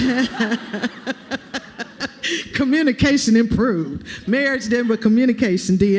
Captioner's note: laughter